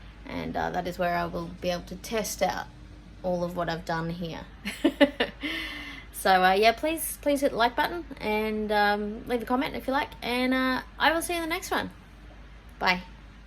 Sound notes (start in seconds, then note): 4.7 laughs